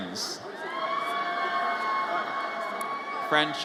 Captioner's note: audience cheers